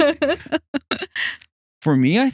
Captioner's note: both Laughing